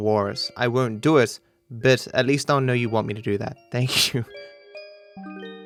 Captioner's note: laughing